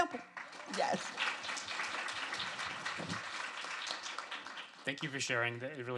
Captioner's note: applause and cheering